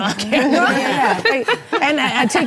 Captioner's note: laughing